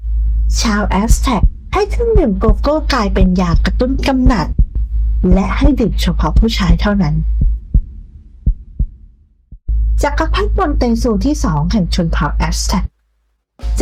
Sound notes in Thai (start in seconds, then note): 8.1 เสียงหัวใจเต้น